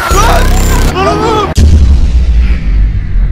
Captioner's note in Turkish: bağırma sesi